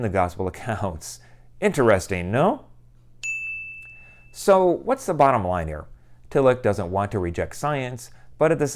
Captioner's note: chime